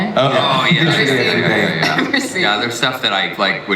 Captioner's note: sounds of agreement